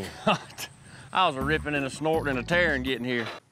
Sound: laughs

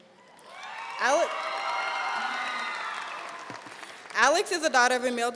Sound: audience cheering and applauding

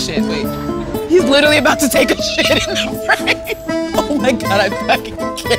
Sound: laughs; laughing

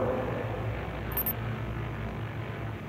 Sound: beeping

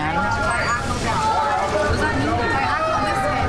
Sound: other contestants shouting

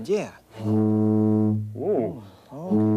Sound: boat horn tooting

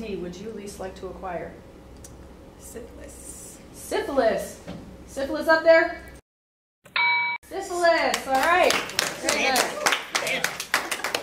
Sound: correct answer ding

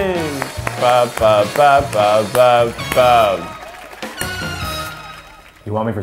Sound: clapping

